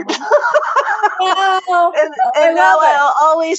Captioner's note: laughs